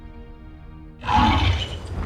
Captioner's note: animal grunts